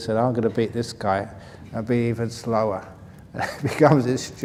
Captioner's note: laughs